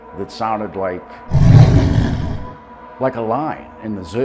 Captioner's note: lion roaring